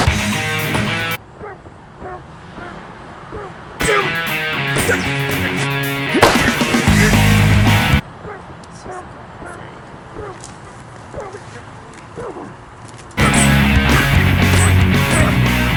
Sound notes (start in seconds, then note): 0.0 rock music; 3.8 grunting; 6.8 rock music; 13.2 rock music